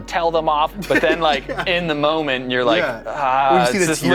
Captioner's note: laughter